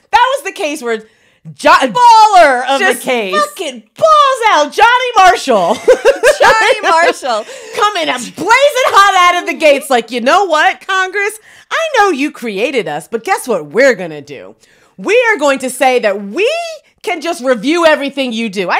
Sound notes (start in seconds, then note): 5.7 laughs